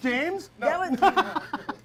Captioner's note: laughing